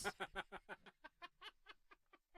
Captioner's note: laughing